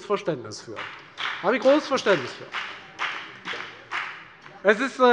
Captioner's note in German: Beifall bei der FDP und bei Abgeordneten der SPD